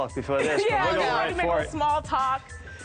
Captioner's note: all laugh